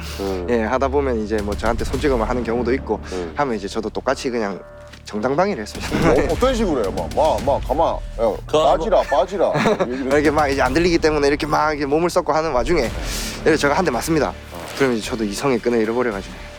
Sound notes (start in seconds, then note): 7.3 Busan dialect